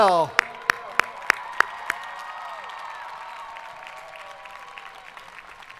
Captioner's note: audience applauding